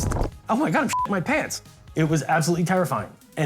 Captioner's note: beep